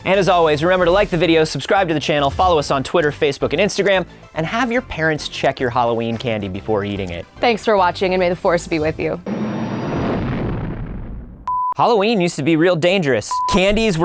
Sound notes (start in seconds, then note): 9.2 engine revving